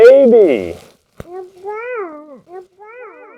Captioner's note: baby sound